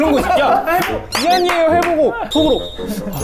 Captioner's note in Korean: 깔깔깔